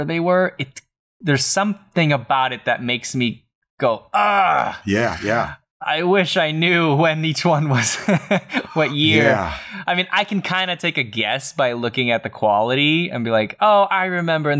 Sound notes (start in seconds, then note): 7.7 laughter